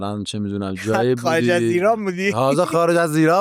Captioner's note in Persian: خنده